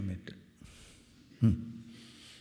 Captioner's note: clears throat